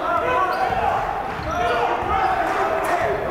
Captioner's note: yelling